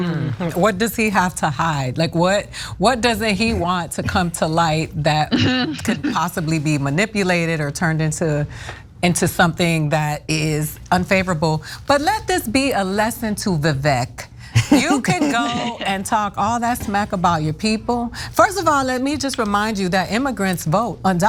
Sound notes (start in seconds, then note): 14.6 laugh